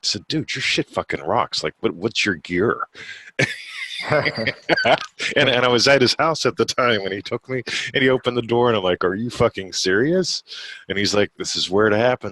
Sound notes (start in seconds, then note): 3.5 laughing